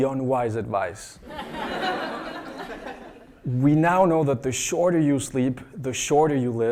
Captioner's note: laugh